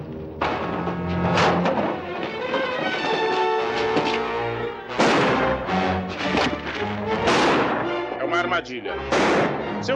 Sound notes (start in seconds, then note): 4.9 gunshots